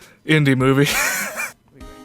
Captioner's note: wheeze